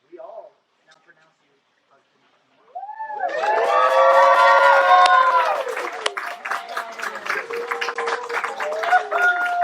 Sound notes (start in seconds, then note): 4.6 ruckus